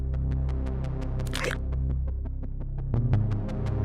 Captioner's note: guard gasps; neck snapping; suspenseful music continues